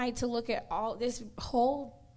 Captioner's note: none